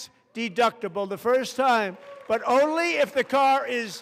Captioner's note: applause